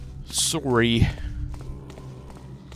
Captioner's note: bad Canadian accent